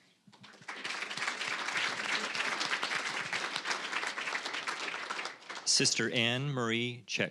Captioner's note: applause